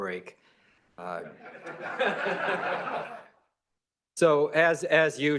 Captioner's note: laughter